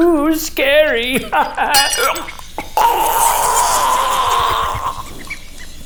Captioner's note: choking on poison gas